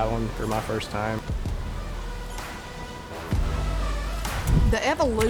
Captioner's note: upbeat music; water roaring